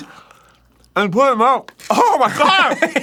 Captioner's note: tlaking with his mouth full